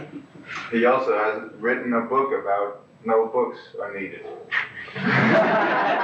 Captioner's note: laughter